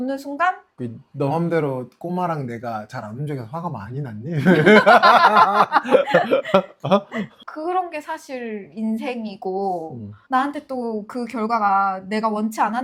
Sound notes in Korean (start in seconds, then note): 4.3 웃음